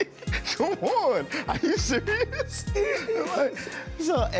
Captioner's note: chuckles